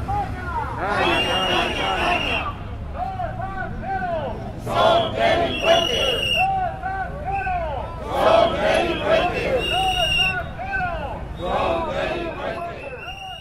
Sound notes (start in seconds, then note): 2.5 shouting slogans; 8.5 shouting slogans